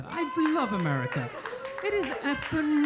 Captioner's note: audience cheering; audience cheering and applauding